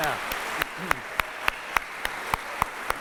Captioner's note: applause